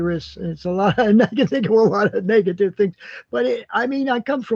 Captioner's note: laughs